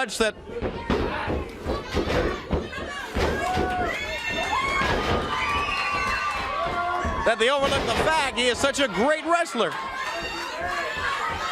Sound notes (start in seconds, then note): 3.8 crowd cheering